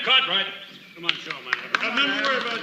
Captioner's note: clapping, murmuring